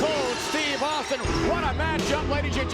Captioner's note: glass shatters